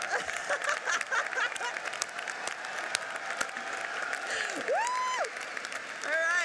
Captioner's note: audience cheers and applauds; laughs